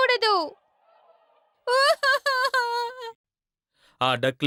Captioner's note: sob sob sob